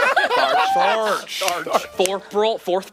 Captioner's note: Laughing at Tharch